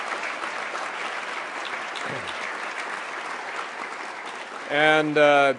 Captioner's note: applause